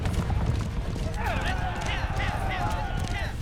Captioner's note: yelling, hoofbeats pounding